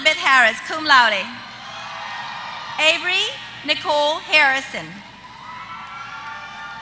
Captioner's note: applause